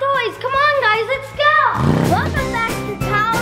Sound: engine revs

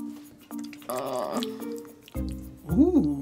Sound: groans reluctantly

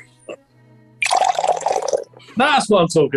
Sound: splashing

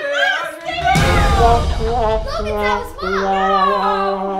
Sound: sad horn noise

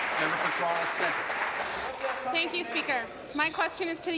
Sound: applause

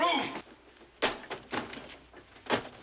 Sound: swack!!!!

